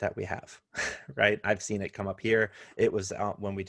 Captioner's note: laughter